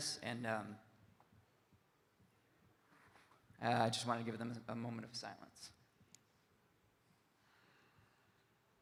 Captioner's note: none